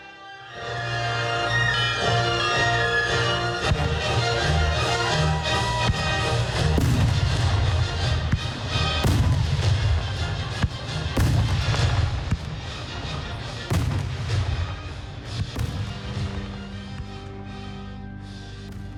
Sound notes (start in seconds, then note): 0.4 dramatic music; 6.6 fireworks exploding; 9.7 dramatic music; 15.8 gentle music